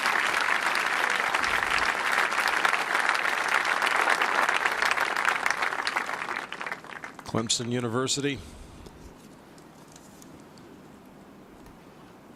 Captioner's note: cheers and applause